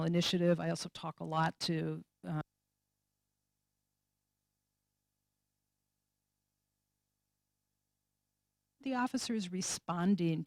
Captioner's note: no audio detected